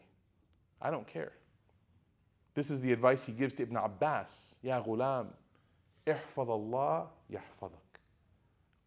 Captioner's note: speaking Arabic